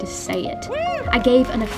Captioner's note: cheering in background